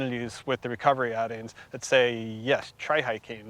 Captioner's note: none